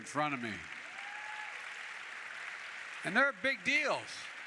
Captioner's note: applause